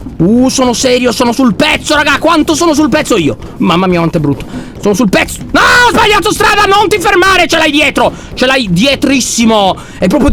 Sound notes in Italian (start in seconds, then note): 5.6 urlando